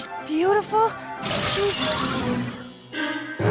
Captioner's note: tinkling